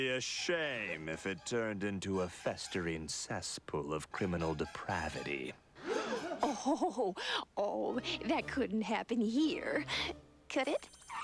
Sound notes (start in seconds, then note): 7.1 both gasp; 7.8 laughs